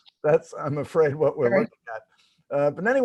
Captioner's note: laughs